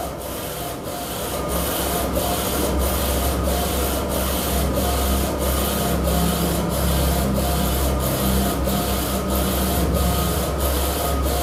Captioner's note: printer machine noise